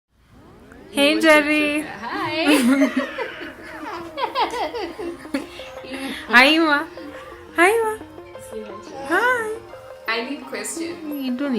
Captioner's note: laughing